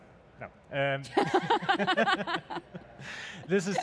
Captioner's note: laughs